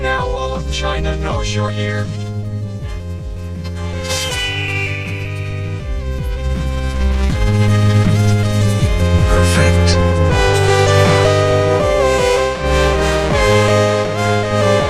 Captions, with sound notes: Now all of China knows you're here. [falcon screeches] Perfect.